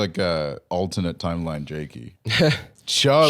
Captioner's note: laughs